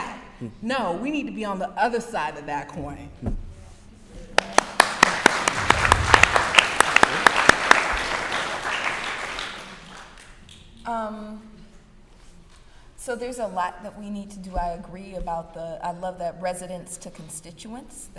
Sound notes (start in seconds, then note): 4.3 applause